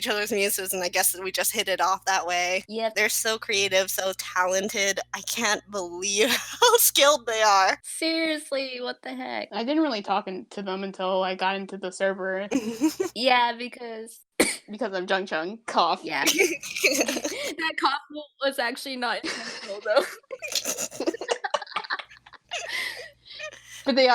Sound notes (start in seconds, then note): 14.4 cough; 19.2 laughter